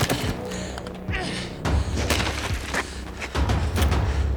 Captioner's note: grunting